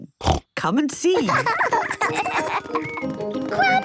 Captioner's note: snorting; laughter